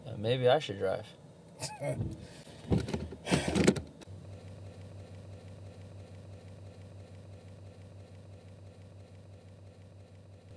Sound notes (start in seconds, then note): 1.6 Alexander laughs